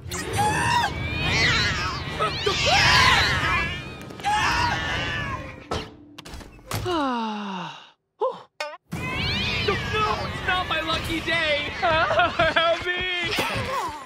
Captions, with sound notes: [screaming] [meowing] [meowing, screaming] [sighing] [meowing] No! No! It's not my lucky day! Help me!